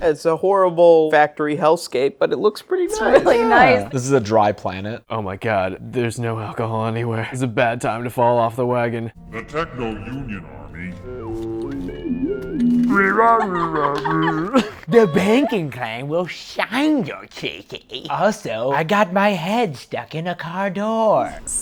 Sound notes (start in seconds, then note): 12.3 robot sounds; 12.7 mimicking robot